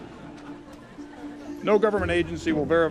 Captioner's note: audience laughing